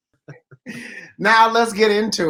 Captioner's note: they laugh